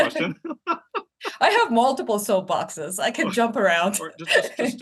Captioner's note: laugh